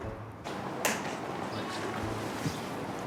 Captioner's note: clicking